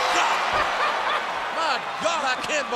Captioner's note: Jerry laughs